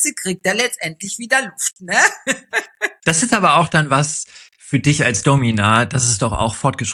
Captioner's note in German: gelächter